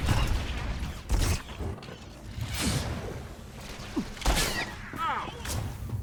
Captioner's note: gunshots